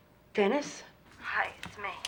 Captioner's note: on phone